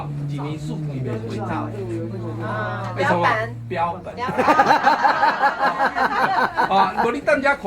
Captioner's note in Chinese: 哈哈